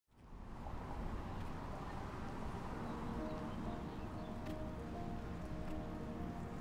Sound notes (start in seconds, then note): 0.2 traffic hums; 2.4 calm music